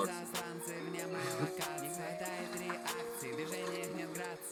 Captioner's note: laughing